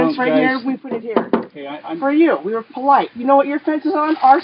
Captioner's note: knocks 3x